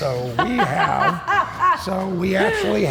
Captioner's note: laughs